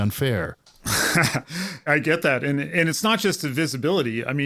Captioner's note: laugh